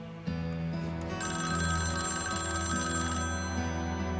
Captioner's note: phone ringing